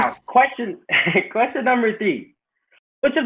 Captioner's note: chuckles